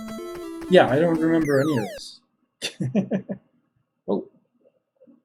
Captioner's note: chuckles